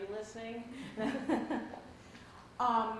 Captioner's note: laughter